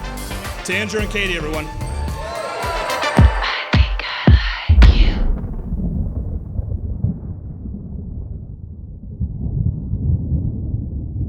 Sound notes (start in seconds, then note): 1.7 spectators cheering; 4.6 thunder rolling